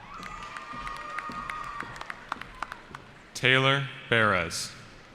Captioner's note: cheering